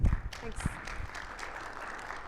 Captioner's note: audience applauding